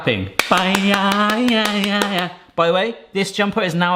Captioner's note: claps and hums